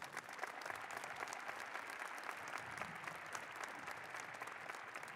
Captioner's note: applause